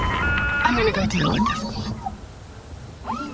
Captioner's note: dial up blaring